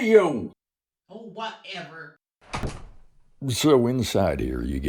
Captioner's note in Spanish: puerta slams